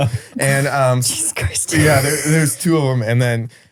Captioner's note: laughs